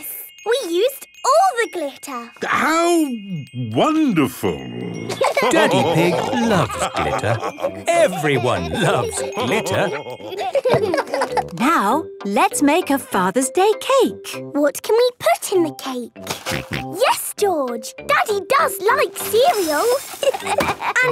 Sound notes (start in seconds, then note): 5.1 laughter; 16.7 snorting; 20.2 laughter